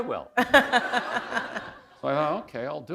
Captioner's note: laughter